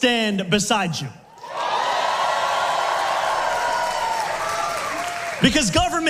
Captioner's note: massive crowd cheer